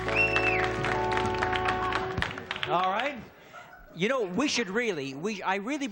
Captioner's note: audience claps and cheers